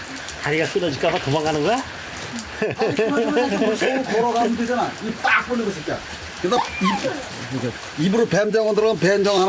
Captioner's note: laughs